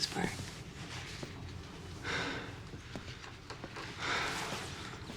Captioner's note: breathes heavily